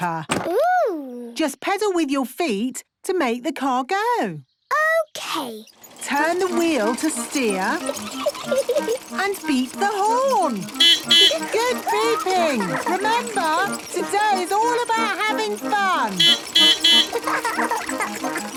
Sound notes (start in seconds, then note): 7.3 giggling; 10.4 beeping; 15.8 beeping; 15.8 laughing